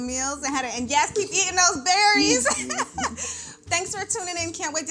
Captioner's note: laughs